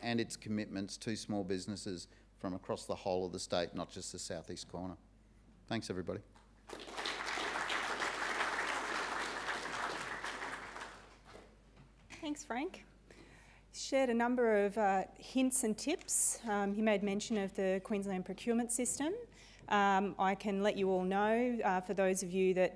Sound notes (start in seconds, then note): 6.6 audience applauding